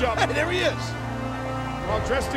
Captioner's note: laughs